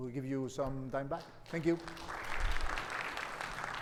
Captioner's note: audience clapping